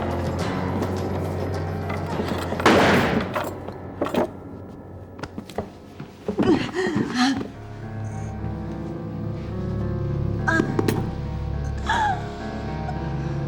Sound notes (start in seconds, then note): 2.6 gun fires; 6.3 groans; 10.3 groaning